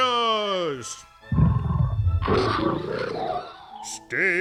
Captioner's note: growling octopus sounds